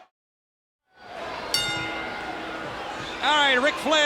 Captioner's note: crowd cheering; bell chiming